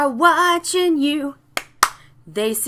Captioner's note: claps